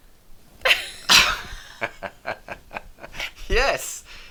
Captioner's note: both laughing